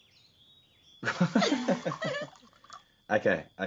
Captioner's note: laughing